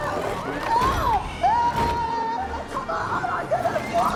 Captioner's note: yelling